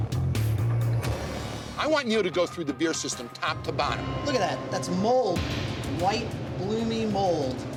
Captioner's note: none